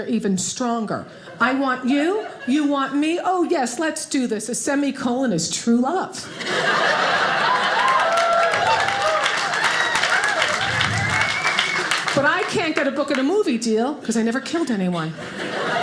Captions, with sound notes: they're even stronger. I want you, you want me, oh yes, let's do this. A semi-colon is true love, (audience laughing) (audience applauding) but I can't get a book and a movie deal, 'cause I never killed anyone.